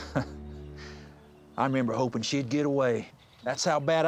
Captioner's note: laughs